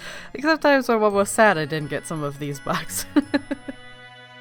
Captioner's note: laughs